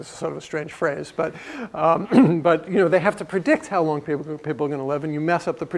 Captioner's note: cough